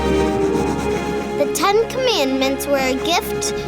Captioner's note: voiceover